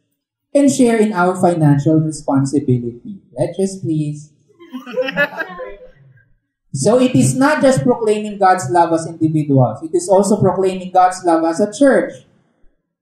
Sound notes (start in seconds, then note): 4.6 laughter